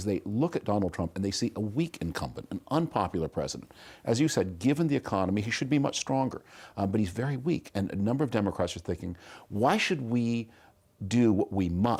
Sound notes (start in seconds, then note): none